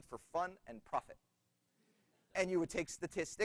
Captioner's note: laughter